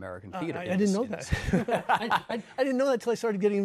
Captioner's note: laughs